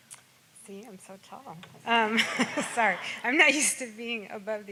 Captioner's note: laughs